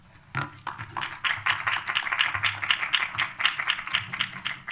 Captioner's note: applause